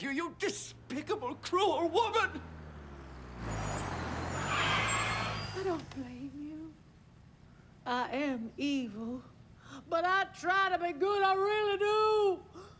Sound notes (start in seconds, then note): 2.2 car approaching